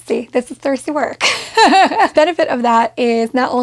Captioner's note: laughing